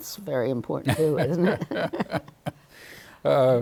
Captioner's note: both laughing